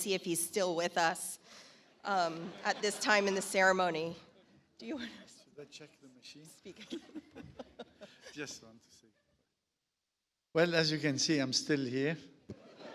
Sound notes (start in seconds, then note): 6.6 laughs; 12.6 audience laughs